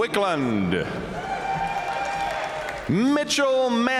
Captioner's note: audience cheering and applauding